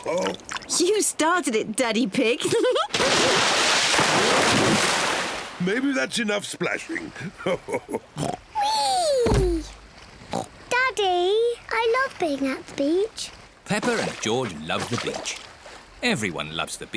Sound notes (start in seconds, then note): 7.2 chuckles; 10.3 oinks